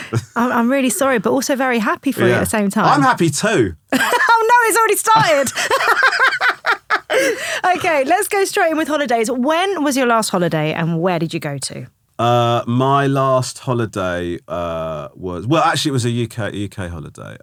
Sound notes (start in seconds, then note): 3.9 laughing